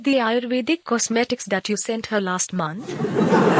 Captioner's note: laughter